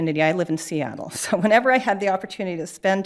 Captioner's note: chuckling